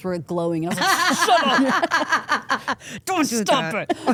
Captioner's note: Steph laughs